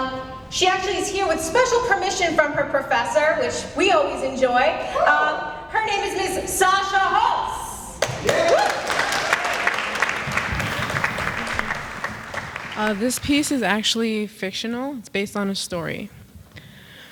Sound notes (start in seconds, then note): 8.0 applause